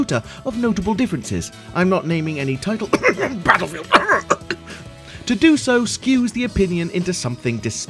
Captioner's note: cough Cough